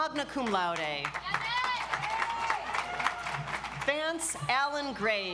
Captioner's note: audience applauds